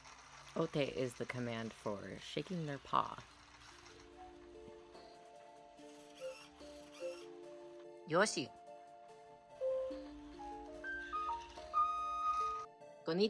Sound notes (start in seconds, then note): 3.4 gears whirring